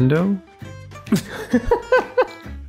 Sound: laughter

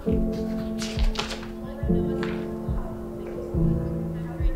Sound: paper rustling

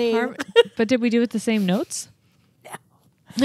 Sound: chuckles

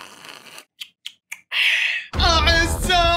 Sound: sips; gasps

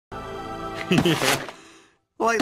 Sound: laughs

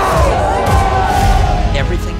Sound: all yell

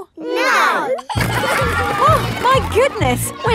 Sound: giggling

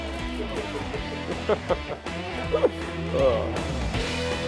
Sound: they laugh

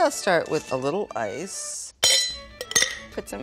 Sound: ice clinking

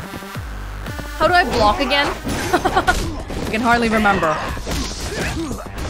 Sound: laughs

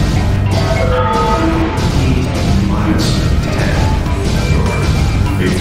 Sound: very Distorted Announcement Chime

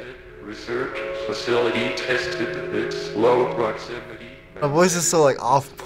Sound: robotic voice

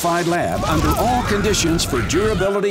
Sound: researcher screaming

